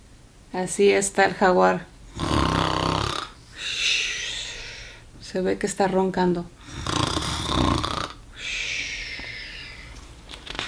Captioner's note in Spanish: ronquidos